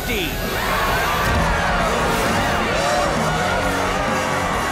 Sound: cheers

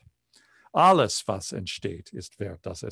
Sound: speaking german

